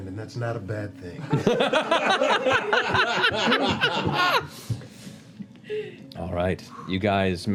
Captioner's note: laughter